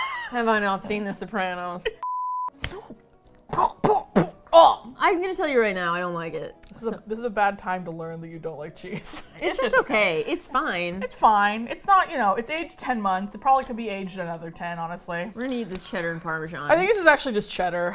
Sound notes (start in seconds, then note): 3.4 spitting sounds